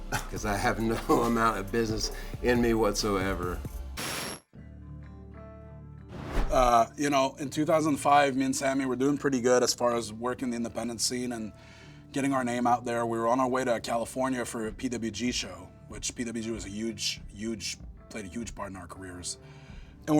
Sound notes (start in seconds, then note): 4.0 static screeching; 4.2 light music